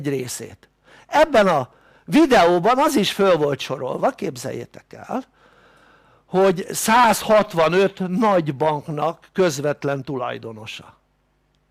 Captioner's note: in German